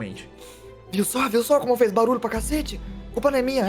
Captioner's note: whispering